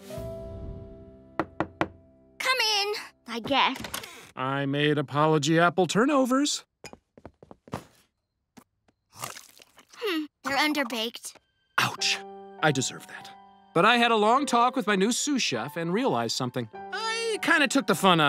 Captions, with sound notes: [knocking] Come in, I guess. I made apology apple turnovers. Hmm, they're underbaked. Ouch, I deserve that. But I had a long talk with my new sous chef and realized something. I kind of took the fun out of cooking